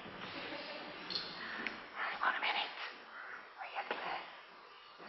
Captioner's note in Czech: Šeptá